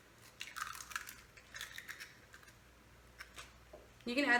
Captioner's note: egg cracking